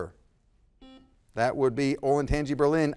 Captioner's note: buzzer buzzes